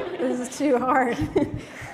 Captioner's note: laughter